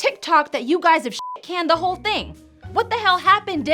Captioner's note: beep